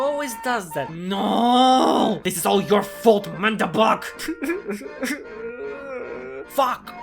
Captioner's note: crying